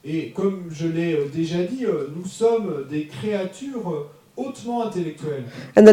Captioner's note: audience member speaks in French